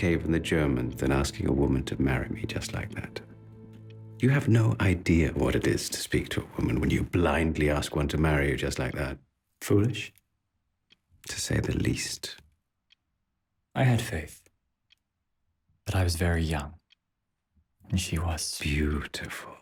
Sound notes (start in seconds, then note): 15.8 clock ticking